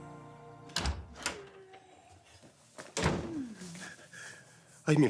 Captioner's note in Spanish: Sonido al abrir la puerta